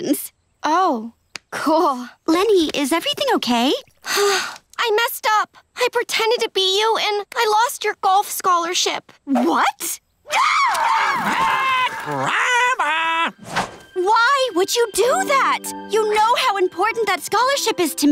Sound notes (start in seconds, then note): 4.0 sighing; 9.9 squawking